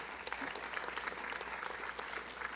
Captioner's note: applause